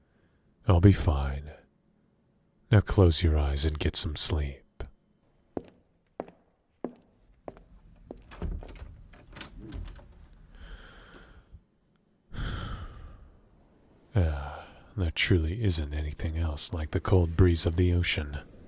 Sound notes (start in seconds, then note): 6.7 stepping; 7.9 Doors opening and closing, leaving the captain's quarters; 12.3 deep breath